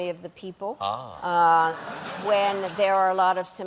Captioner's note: laughter